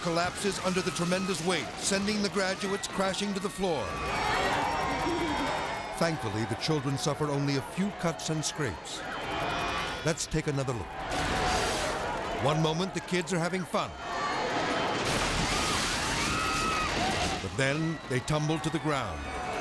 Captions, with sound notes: The stage collapses under the tremendous weight, sending the graduates crashing to the floor. (people shouting) Thankfully, the children suffer only a few cuts and scrapes. Let's take another look. (children laughing) One moment the kids are having fun. (stage thumps) (people screaming) But then they tumble to the ground.